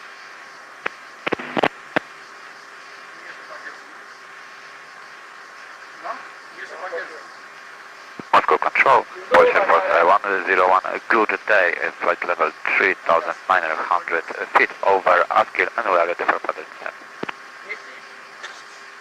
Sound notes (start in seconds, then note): 1.2 changing frequency